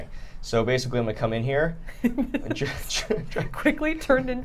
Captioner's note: laughing